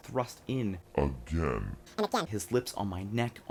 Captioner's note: slowed down deep voice followed by a sped up high-pitched voice